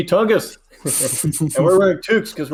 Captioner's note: both chuckle